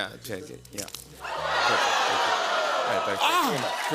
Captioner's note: audience "Ohhs"